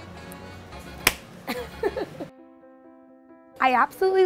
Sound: hands clap

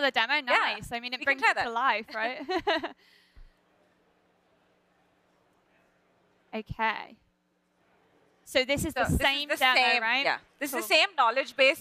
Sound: laughter

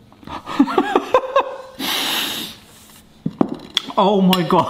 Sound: laughing

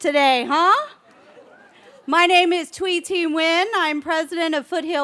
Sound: cheering

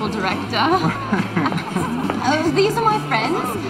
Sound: Jake chuckles

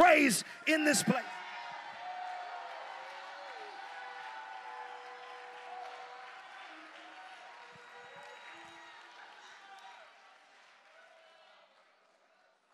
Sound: congregation cheers and claps

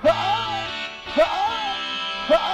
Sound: screaming

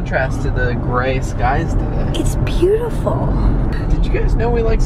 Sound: none

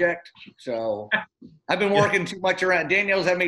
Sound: laughter

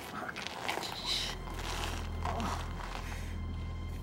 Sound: groans

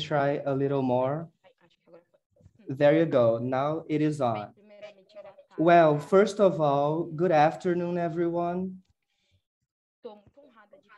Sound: speaking in a language other than English

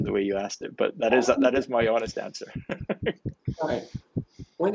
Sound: laughing

